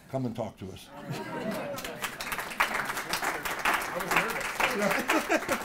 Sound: laugh; applause; laugh

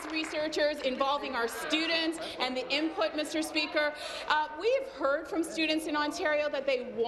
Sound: applause

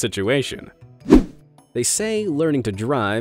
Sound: image whooshing

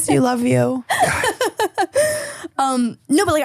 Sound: laughing

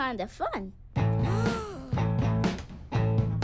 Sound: gasps

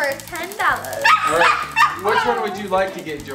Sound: dog barking

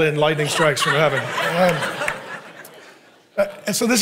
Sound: congregation laughing

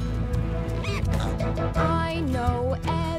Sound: snorting

